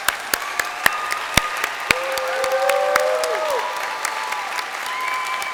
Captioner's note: crowd applauding and cheering